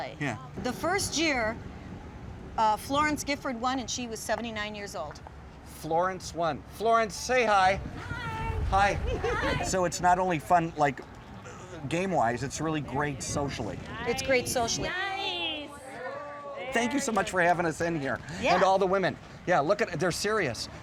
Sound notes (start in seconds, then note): 13.8 crowd cheering on